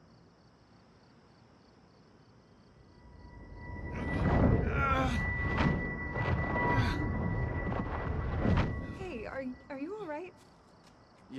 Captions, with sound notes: (distressing music) (Norman groaning) - Hey, are you all right?